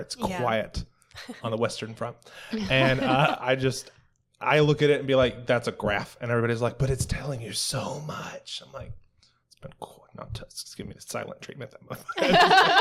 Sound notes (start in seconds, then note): 2.6 laughter; 12.1 laughter